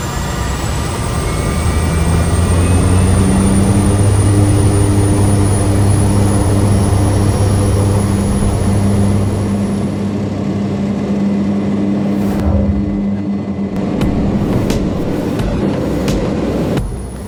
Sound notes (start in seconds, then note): 0.0 engine roars as it gets up to speed